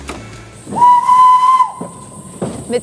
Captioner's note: pfeift